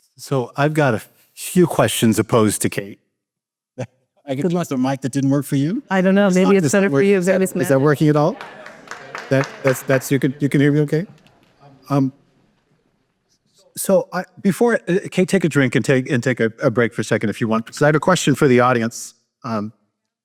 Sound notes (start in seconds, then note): 9.1 applause